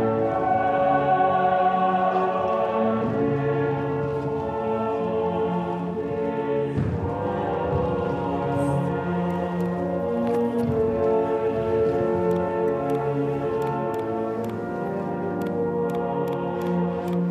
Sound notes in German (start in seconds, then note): 7.0 Leise dumpfe Schritte der Tänzer